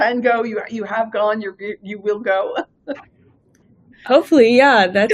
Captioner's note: laughing